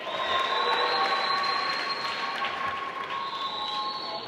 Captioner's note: applause